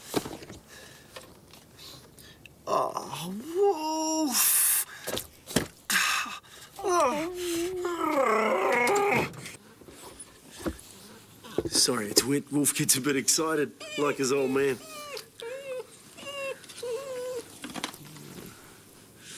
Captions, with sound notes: (sniffing) Oh, woof! (dog whining) Sorry, Wolf gets a bit excited like his old man. (dog whining)